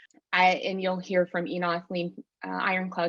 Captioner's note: non-english speech